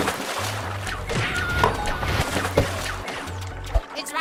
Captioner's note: screaming